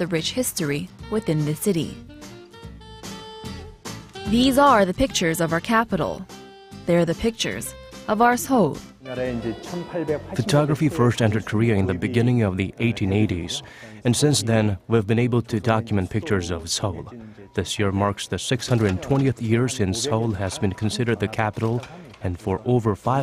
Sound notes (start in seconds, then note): 9.3 korean